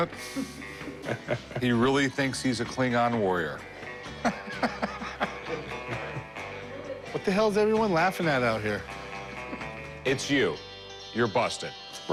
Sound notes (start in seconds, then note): 0.2 chuckling; 4.1 laughs